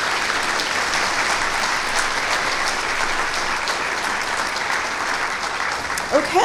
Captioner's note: clappping